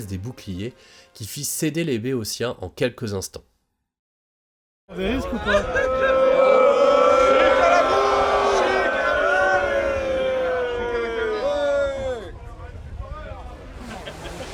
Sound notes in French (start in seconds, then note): 5.0 cri d'encouragement